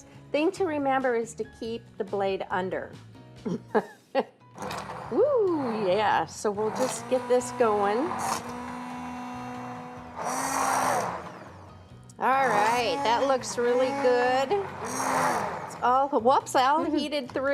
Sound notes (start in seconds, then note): 3.0 laughs; 6.6 whirring